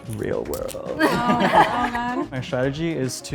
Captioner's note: all laughing